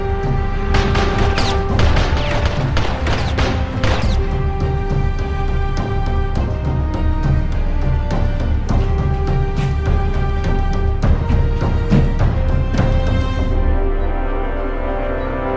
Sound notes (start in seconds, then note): 0.7 more Gunfire; 3.0 bullets Zipping Past